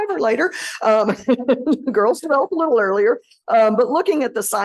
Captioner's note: laughter